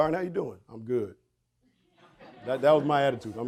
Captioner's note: audience laughing